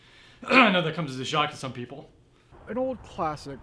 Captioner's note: clears throat